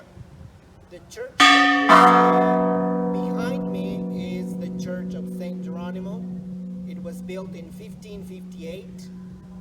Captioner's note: church bell rings